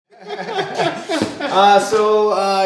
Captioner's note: laughter